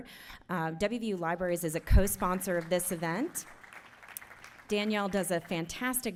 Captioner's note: applauding